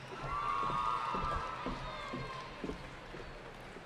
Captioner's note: cheering